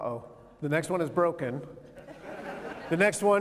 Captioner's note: laughter